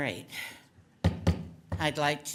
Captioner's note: hammer bangs